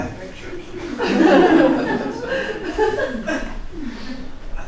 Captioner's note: laughter